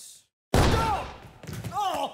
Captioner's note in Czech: výstřel